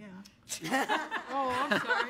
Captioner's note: audience laughs